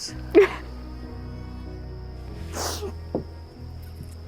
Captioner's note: sobbing